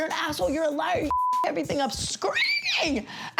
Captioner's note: beep